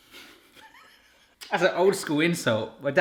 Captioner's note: laughs